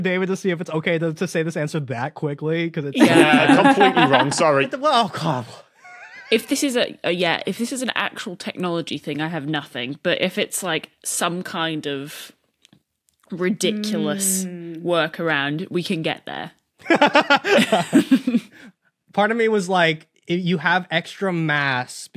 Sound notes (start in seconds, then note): 16.8 laugh